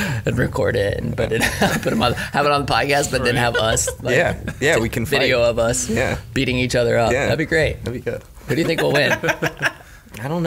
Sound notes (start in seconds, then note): 8.3 laughing